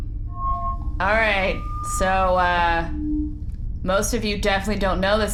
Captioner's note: loud microphone feedback